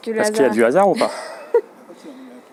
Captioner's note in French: rires